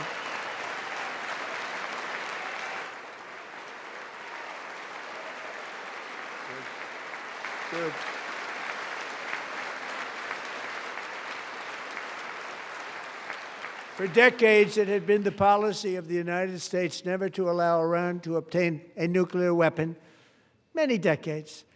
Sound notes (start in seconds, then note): 5.4 applause